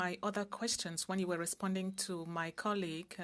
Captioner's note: speaking French